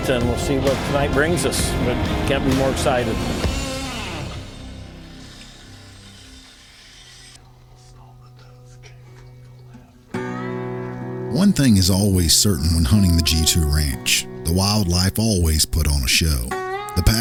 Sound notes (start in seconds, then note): 9.0 whispering; 11.7 guitar music